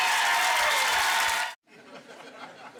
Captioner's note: applause